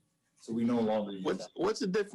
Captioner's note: speaks faintly